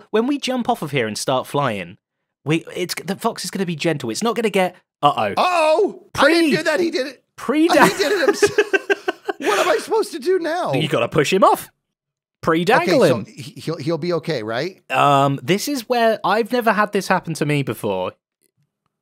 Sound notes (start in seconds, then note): 7.6 laughs